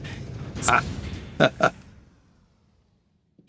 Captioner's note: chuckles